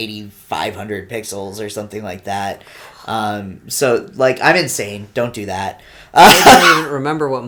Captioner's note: laughs nervously